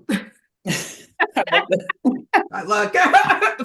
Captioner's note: laughing